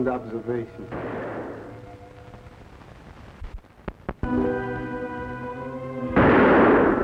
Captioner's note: guns firing; dramatic music